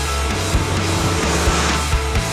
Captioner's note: motorcycle revving over music